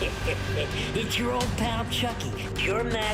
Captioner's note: laughs